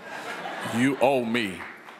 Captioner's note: people chuckle